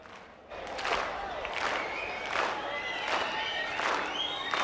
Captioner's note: clapping rhythmically